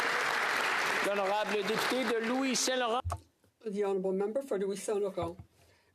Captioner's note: applause